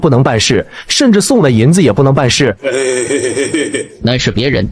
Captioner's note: chuckles